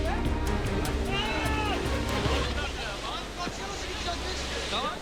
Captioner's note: bystanders chatter